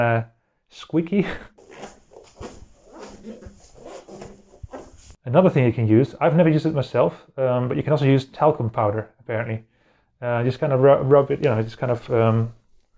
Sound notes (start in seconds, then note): 1.6 squeaky floor sounds* d